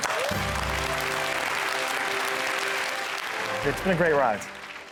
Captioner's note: audience Clapping